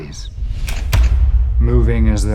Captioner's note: clicking